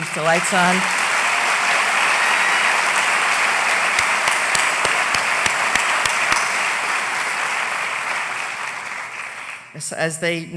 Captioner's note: applause